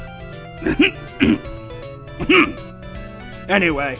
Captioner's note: clearing throat